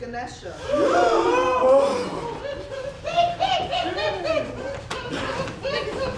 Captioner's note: the Players gasp all together